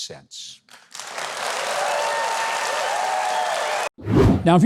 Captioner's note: audience applauds